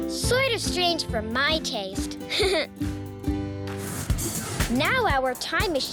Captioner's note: laughs